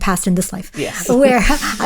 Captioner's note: both laughing